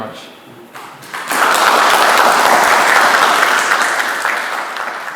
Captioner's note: applause